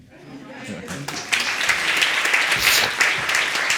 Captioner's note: audience applauding